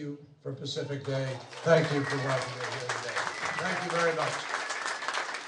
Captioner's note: applause